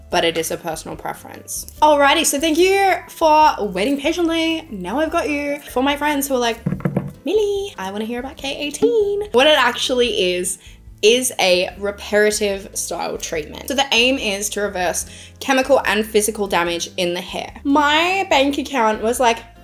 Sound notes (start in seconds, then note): 6.6 tapping